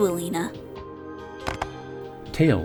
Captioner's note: Tails hangs up phone